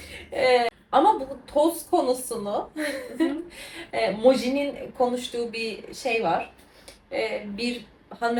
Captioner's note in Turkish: kahkaha